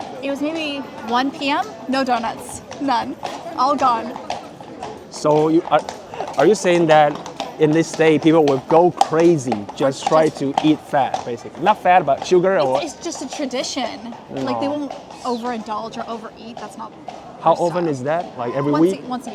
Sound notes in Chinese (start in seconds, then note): 4.4 A carriage passes; 4.4 馬車經過